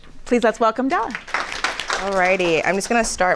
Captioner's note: audience applauding